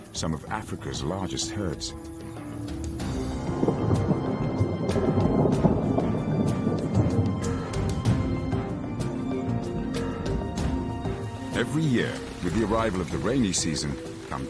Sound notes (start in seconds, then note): 2.5 intense music; 3.0 thunder rumbling